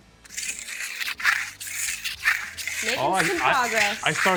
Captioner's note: trowel scrapes